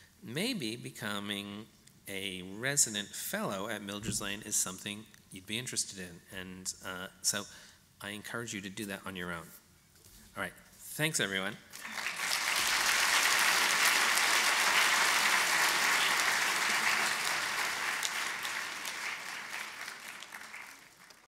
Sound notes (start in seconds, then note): 11.7 applause